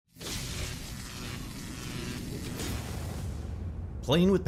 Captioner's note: electricity buzzing